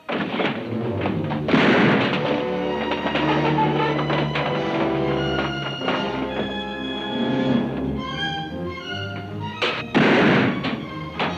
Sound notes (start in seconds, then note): 0.2 door bangs; 1.7 gun bangs; 2.6 exciting music; 9.8 gun bangs